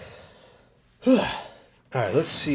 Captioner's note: sharp exhale